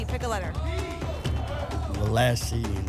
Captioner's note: audience shouting letters